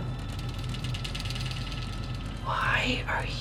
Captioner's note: metal vibrating